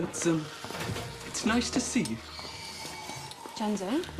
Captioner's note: Plaguelings screeching